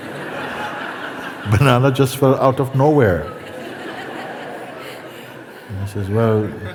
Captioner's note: laughter; laughter